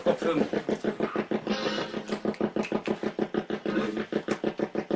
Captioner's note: ghost box buzzing